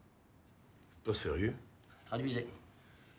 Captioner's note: Monsieur Brittain speaking in foreign language; Rene speaking in foreign language